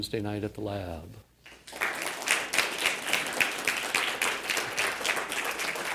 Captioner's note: applause